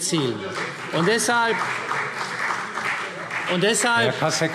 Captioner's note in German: Beifall CDU